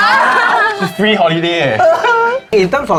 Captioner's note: cries